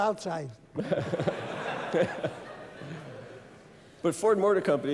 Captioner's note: laughter